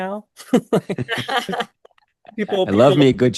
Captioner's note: group laughing